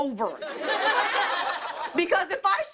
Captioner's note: laughter